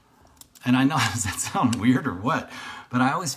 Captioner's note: laughs